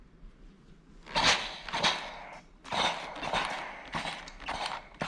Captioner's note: steam spray squeaking